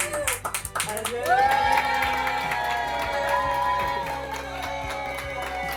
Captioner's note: families cheering